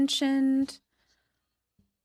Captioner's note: speaking in French